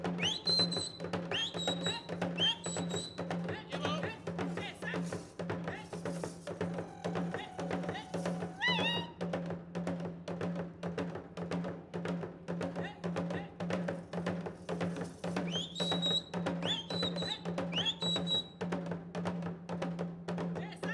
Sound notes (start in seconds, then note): 0.1 whistling; 3.2 shouting and drums beating; 11.9 drums beating; 15.6 whistling; 18.2 drums beating